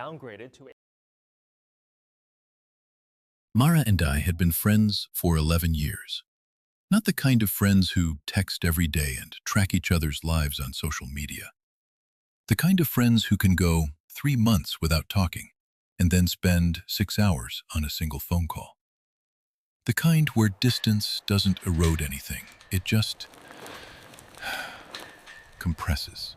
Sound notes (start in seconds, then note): 17.2 TV newsroom tone. Subtle broadcast hiss